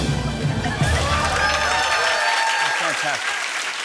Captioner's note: cheers and applause